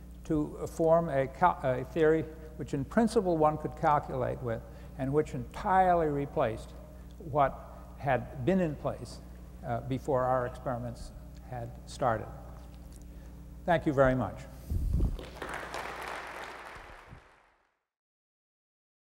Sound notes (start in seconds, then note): 15.1 applause